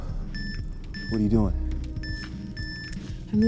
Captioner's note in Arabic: صفير لوحة التحكم